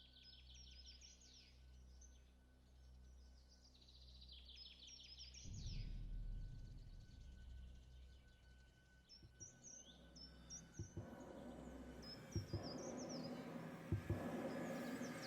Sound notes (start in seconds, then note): 10.7 percussive heart beats